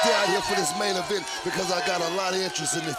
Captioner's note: crowd cheering